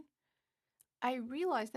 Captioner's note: speaking French